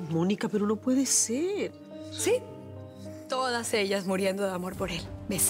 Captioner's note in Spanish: exhala